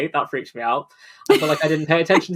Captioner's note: laughs